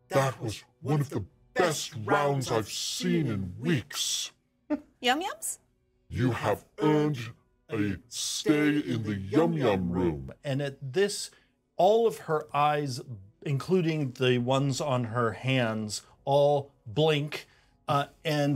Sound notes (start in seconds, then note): 4.5 speaker chuckles